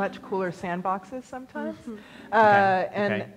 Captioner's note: laughs